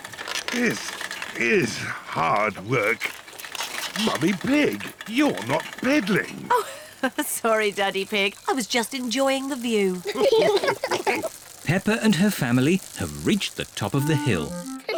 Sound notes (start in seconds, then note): 6.2 giggles; 10.0 all laugh